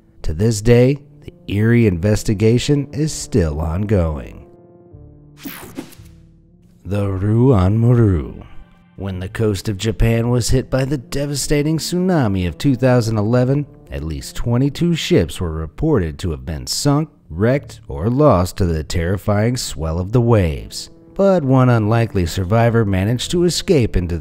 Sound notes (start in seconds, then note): 5.4 slide swooshing